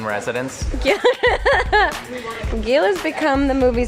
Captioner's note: laughs